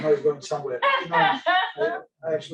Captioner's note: laughs